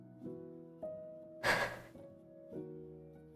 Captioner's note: sigh